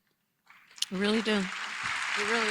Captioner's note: applause